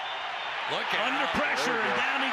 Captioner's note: whistle